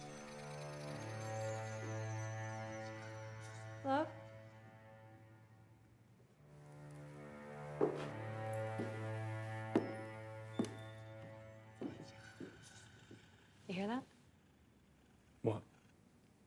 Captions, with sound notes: (moves into tense violin music) - Hello. (shoes tapping) You hear that? - What?